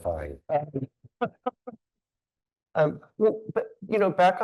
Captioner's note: laughing